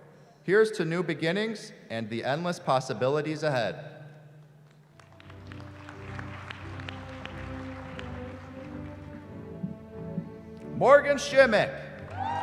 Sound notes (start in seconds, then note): 4.6 applause